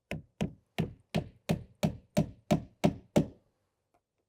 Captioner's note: hammer knocking